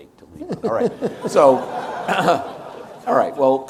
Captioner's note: audience laughs